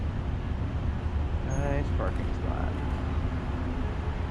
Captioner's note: none